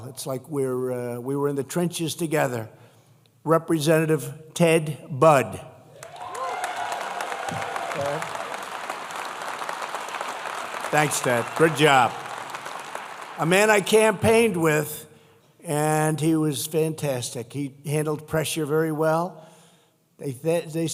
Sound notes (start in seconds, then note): 6.0 applause